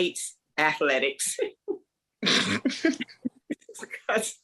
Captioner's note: laughter